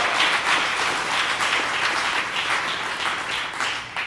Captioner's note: applause